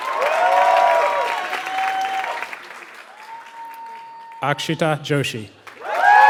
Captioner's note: applause